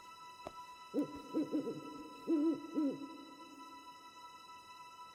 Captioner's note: owl hooting